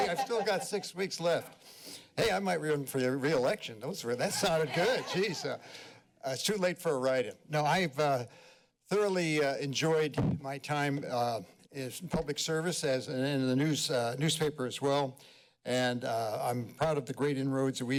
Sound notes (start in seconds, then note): 4.2 laughter